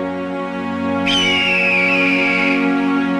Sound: eagle cries

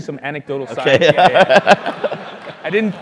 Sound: laugh

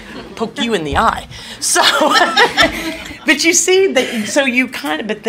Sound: laughs

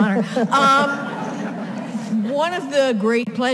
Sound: audience laughs

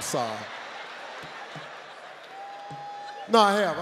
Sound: audience laughing

